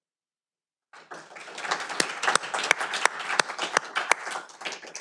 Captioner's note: audience applauding